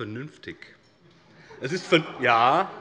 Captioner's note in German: Lachen AfD